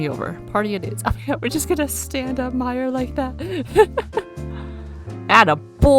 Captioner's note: laughs